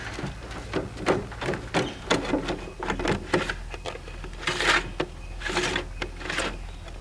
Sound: sifter lid scraping; sifter thuds

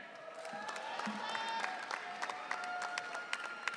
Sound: audience cheering

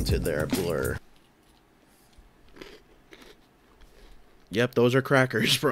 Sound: indifferent eating noises

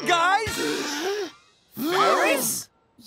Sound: gasps

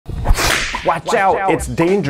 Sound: slashing

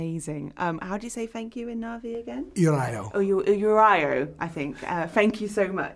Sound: Speaks Navi

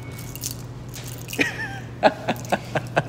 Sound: laughing in Spanish

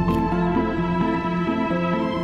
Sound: none

